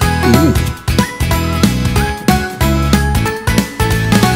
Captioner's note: Donald Trump grunts